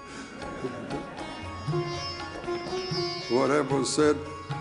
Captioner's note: audience laughing